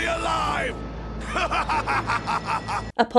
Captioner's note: Vegeta laughs heartily